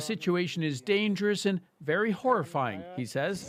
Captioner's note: speaking alternate language